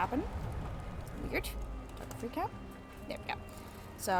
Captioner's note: quietly